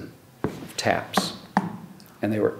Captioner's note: tapping